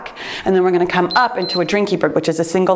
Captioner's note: timer beeps